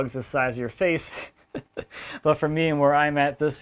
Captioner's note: laughs